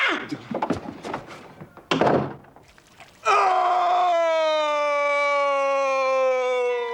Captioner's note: screams